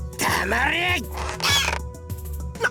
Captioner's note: choked gasp